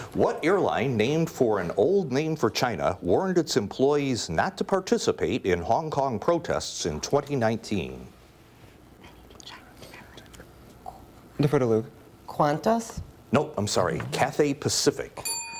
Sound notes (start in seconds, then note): 9.2 team whispering; 15.2 bell rings